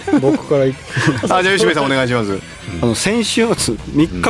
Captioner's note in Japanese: 笑い